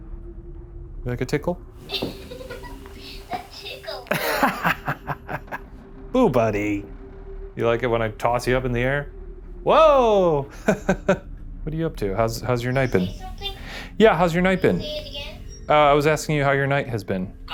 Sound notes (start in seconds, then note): 1.9 Boo Buddy giggles; 4.1 laughs